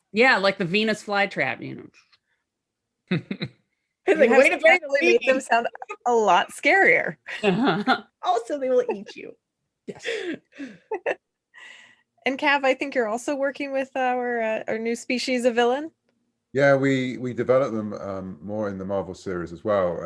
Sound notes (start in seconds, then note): 3.1 chuckles; 10.5 laughter